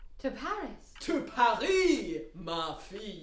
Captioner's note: speaks in foreign language